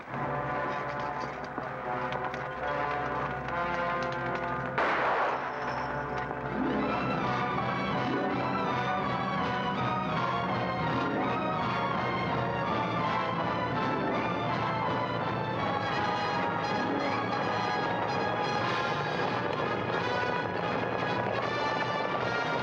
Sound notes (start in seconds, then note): 0.1 dramatic music; 4.7 gun fires; 6.7 dramatic music; 18.7 dramatic music; 18.7 hooves pounding